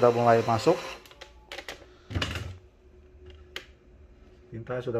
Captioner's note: printer machine sound